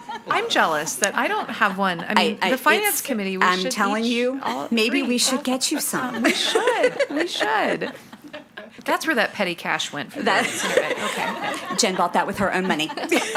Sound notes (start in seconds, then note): 0.0 participants laughing; 7.6 participants laughing; 10.1 participants laughing